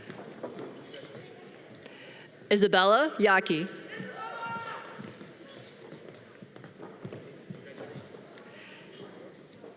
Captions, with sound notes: Isabella Yaki. (audience cheering)